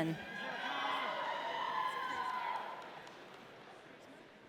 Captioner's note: audience cheering